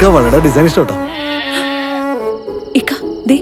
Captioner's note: gasping